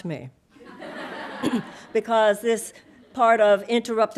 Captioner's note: audience laughing